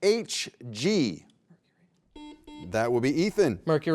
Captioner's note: beep